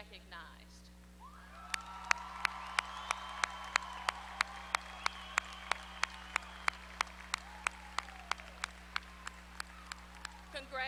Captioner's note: applause